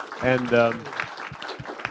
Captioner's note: applause